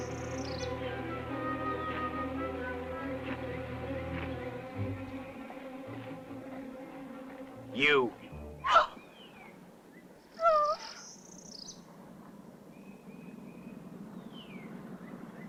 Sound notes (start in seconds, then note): 0.0 worrying music; 10.3 moan; 14.1 sound of engines